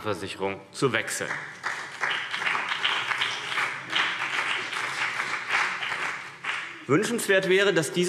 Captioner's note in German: Beifall CDU und BÜNDNIS 90/DIE GRÜNEN